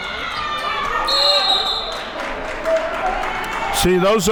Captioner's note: whistle blows; audience clapping